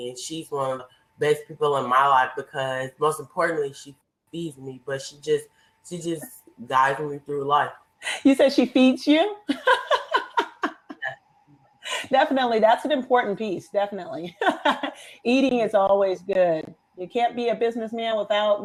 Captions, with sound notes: and she's one of the best people in my life because, most importantly, she feeds me, but she just guides me through life. - (laughs) You said she feeds you? (laughs) Definitely, that's an important piece, definitely. (laughs) Eating is always good. You can't be a businessman